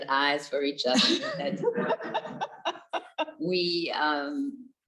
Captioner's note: both laughing